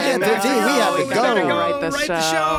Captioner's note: everyone talking